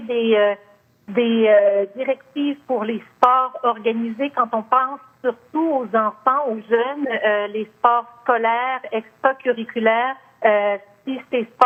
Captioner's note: speaking French